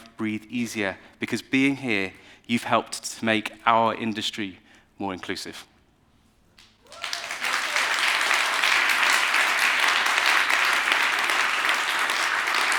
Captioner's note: applause